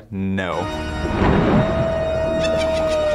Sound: haunting organ music; thunder crashes; evil laughter

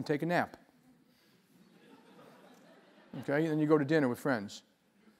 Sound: laugh

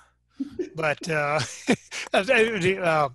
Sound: laughing

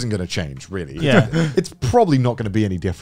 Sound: laughing

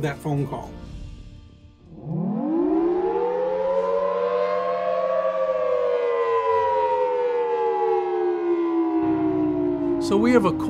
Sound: sirens

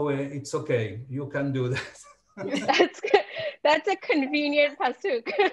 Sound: all laughing

